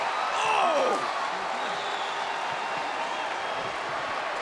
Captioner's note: Lawler groaning